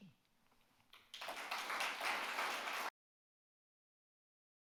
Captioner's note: audience claps